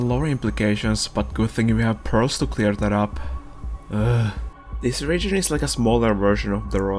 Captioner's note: ugh